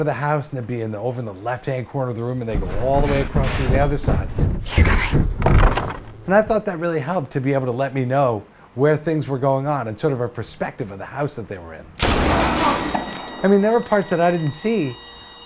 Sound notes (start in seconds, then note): 2.5 footsteps left to right; 12.3 gun shot, high pitch noise